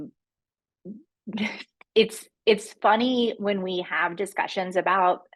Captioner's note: chuckles